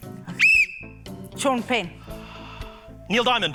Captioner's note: blows whistle